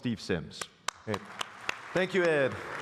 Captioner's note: applause